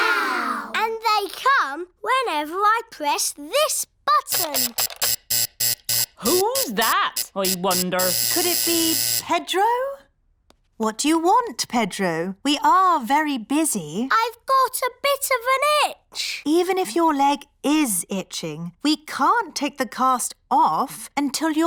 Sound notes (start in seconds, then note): 4.4 alarm buzzes